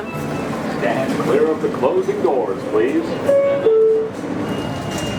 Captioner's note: train announcement; door closing bell